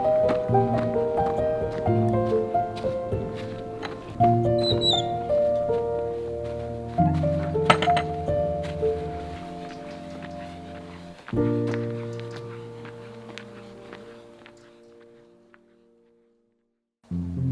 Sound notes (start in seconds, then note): 4.4 gate creaking